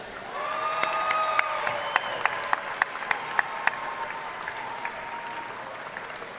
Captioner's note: audience cheering and applauding